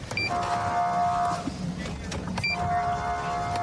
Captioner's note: horn blaring